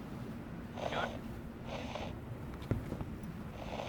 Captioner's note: radio static